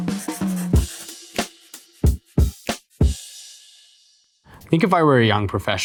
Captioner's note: pencil scribbling; jazz music